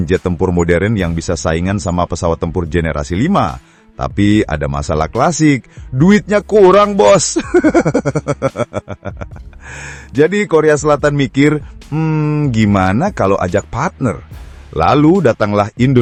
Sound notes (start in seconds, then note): 7.3 laughs